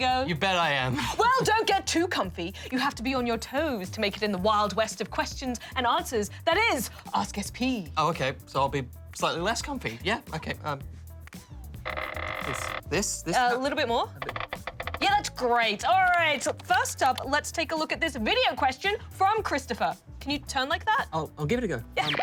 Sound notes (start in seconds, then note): 14.1 creaking